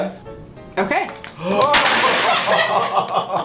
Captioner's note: gasps